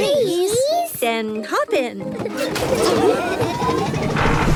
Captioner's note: laughing